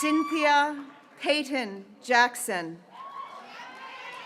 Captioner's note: graduates cheering